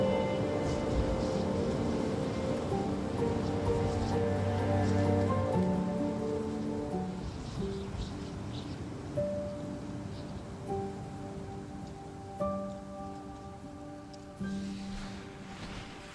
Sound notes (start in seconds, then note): 0.2 gentle poignant music; 3.0 wind in time lapse whooshing